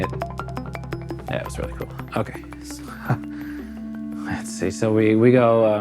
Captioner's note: laughs